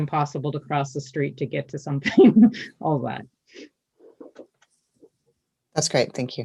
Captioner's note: laughs